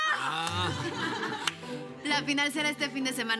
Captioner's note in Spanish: Risas